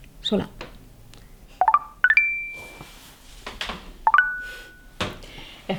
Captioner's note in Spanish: Suena un mensaje del Tinder